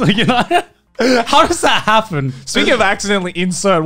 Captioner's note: laughs